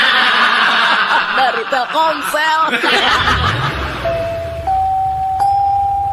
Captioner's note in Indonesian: tertawa